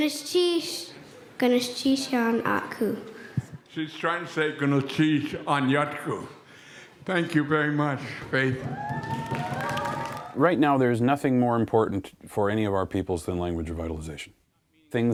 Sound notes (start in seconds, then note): 0.2 speaking in Lingít; 4.8 speaking in Łingít